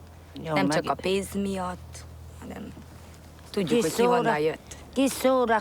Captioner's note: speaking in foreign language